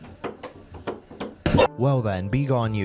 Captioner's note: Cream barking, tail smacking against the walls; volume-boosted bark